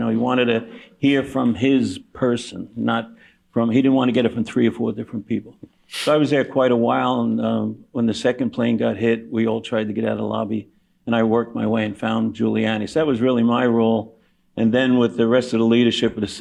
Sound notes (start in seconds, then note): none